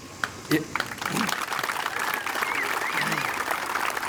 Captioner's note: applause